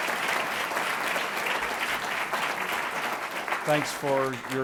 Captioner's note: audience clapping